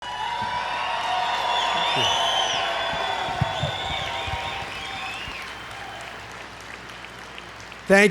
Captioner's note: applause